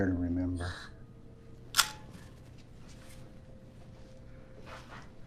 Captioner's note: camera click